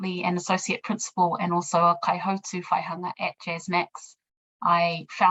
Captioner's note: speaking in foreign language